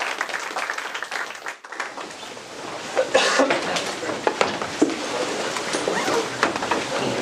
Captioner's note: applause; audience murmurs